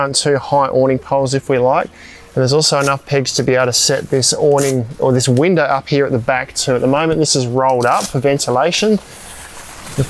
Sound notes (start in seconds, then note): 7.8 tent sticker scorching